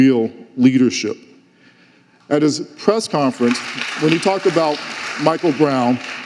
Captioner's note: audience applauding